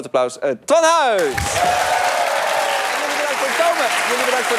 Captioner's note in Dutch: applaus en gejuich